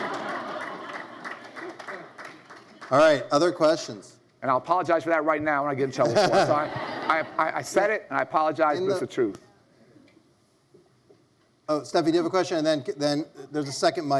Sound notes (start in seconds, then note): 0.0 audience laughs; 6.0 audience laugh